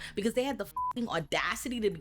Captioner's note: beep